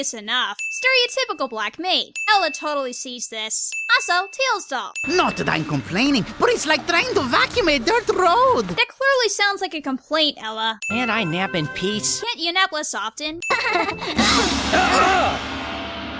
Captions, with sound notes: Not that I'm complaining, but it's like trying to vacuum a dirt road! Can't I nap in peace? (laughs) (exclaims)